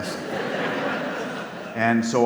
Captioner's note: audience laughs